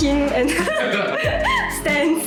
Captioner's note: laughters